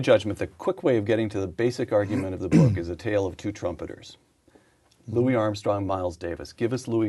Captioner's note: clearing throat